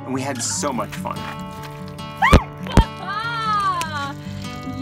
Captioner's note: shrieking and laughter